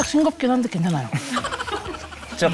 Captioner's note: can't hold his laughter